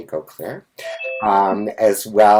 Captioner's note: computer notification